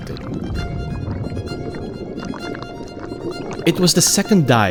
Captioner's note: bubbles gurgle; violin music continues